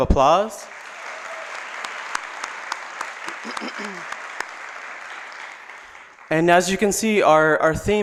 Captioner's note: applause